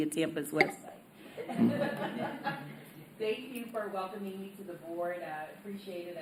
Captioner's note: laughter